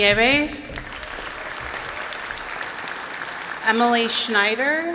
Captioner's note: applause